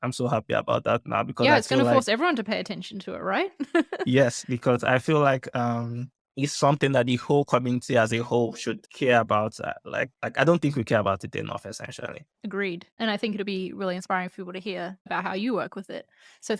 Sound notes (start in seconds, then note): 3.6 laughter